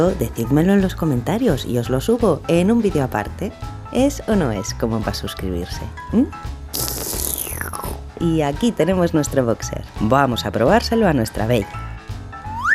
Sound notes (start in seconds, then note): 6.7 sips coffee